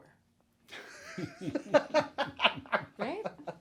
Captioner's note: chuckles